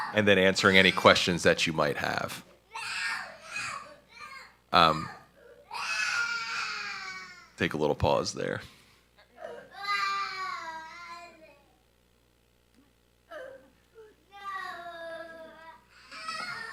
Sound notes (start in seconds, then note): 3.7 screaming; 9.2 crying